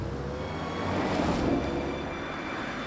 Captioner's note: car drives away